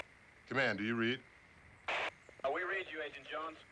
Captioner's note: static